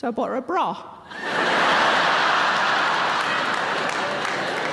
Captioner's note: audience laughing